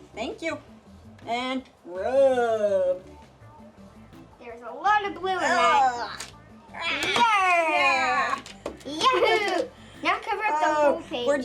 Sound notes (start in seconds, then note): 6.7 both yell